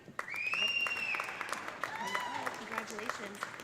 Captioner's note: audience applauding; audience cheering